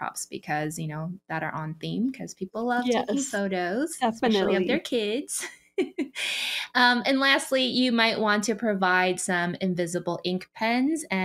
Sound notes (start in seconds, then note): 5.7 chuckles